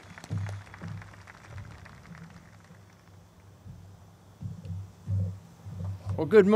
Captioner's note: group claps